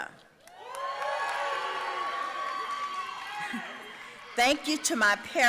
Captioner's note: audience cheering and applauding